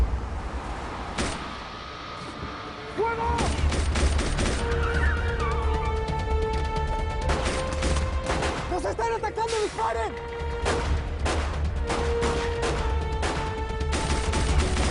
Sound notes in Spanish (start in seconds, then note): 3.3 Disparos; 5.4 Chirrido de llantas; 7.2 Disparos; 10.6 Disparos